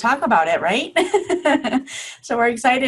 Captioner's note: laughing